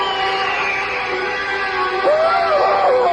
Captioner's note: screaming